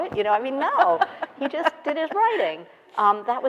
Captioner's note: laughing